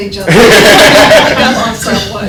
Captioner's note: laughter